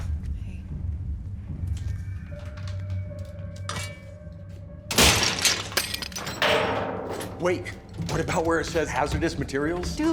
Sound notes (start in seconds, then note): 4.9 metal clatters